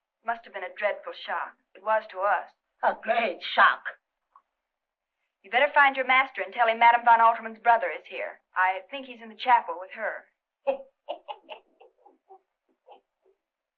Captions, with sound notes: It must have been a dreadful shock. It was to us. A great shock. You better find your master and tell him Madam von Altermann's brother is here. I think he's in the chapel with her. [chuckling]